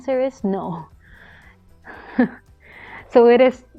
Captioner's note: chuckles